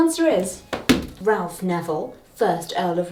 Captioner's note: pointer thuds